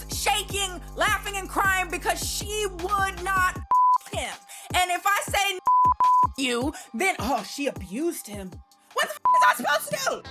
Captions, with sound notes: shaking, laughing and crying because she would not (beep) him. And if I say (beep) you, then oh, she abused him. What the (beep) am I supposed to do?